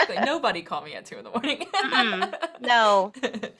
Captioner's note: laughs; laughs